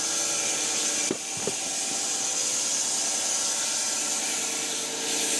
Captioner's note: log saw whirring continues